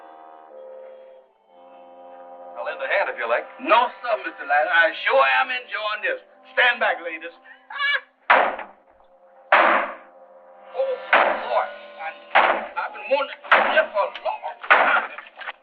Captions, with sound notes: I'll lend a hand if you like. No sir, Mr. Adams. I sure am enjoying this. Stand back, ladies. [axe thudding] Oh, boy. I've been wanting to do this for a long time.